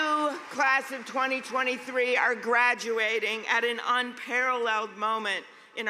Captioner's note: cheers and applause